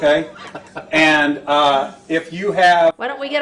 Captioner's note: audience laughs; faintly speaks